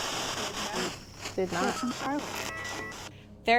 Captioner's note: spirit box voice